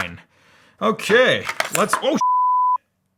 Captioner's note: beep